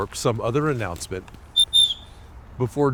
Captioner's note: whistle blows twice